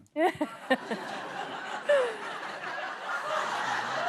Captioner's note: laughter